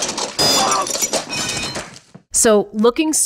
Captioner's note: iron clatters; Marv grunts